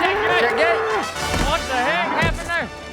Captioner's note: bull grunting